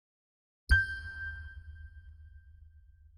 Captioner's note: ding